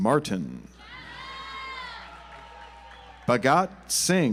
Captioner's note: audience applauds